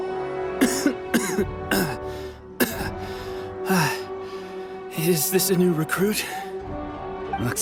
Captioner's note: coughing